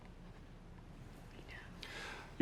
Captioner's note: whispering